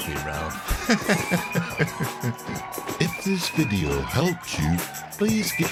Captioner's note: laughs